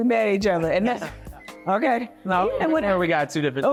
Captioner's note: laughing